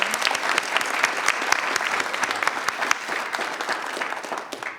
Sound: audience applauds

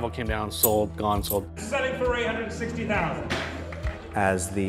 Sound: bangs gavel

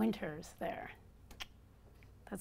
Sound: clicks

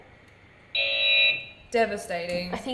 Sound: buzzer beeps loudly

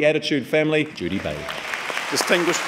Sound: audience clapping

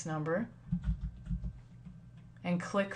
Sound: typing

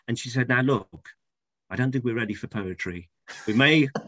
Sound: laughs offscreen

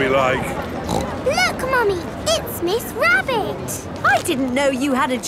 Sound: snorts

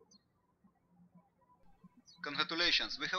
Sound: birds chirping

